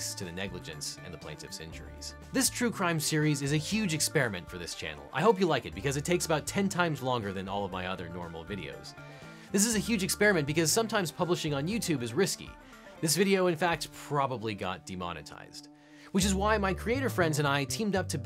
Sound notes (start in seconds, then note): none